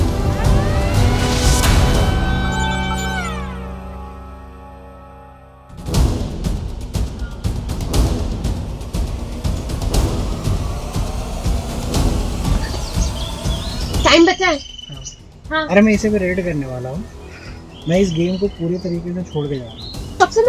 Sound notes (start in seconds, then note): 0.0 siren goes off